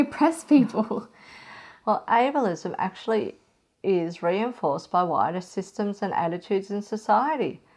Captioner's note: sigh